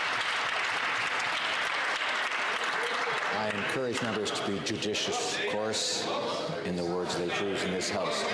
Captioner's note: some Applause